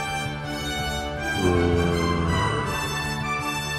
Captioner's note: groaning